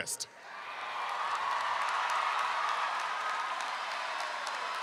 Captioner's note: crowd cheering